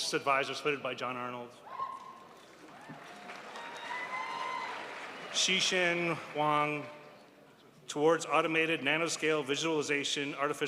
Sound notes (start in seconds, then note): 4.0 crowd applauds